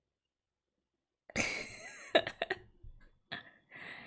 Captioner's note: laughs